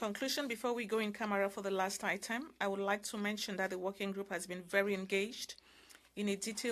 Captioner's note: speaking French